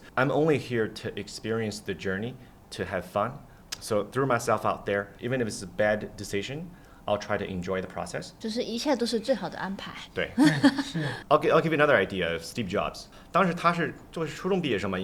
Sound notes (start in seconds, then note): 10.3 laughter